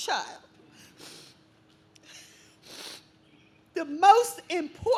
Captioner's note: sniffling